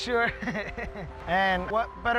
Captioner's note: chuckling